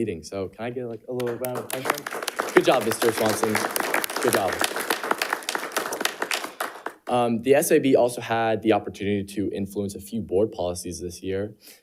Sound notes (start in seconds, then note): 1.1 audience applauding